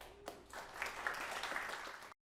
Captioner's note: applause